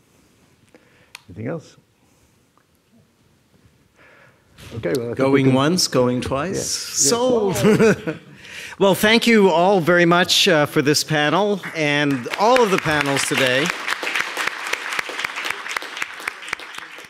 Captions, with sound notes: Anything else? Okay, well-- - going once, going twice. Sold. (laughs) - Yes, sold. - Well, thank you all very much for this panel, and all of the panels today. (audience applauding)